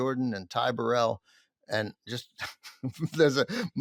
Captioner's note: laughs